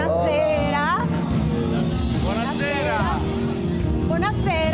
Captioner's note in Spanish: Hablan en otro idioma